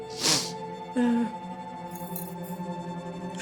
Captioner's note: crying